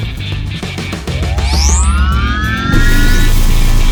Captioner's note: machine whirring; electricity crackling